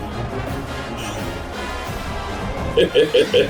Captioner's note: crowd Noises; laugh